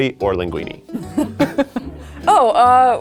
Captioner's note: laughing